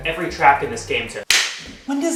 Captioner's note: slap